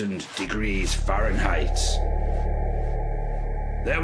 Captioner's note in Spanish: Sonido misterioso